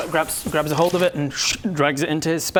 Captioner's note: shhhtt